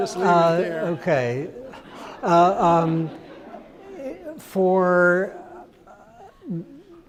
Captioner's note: crowd laughs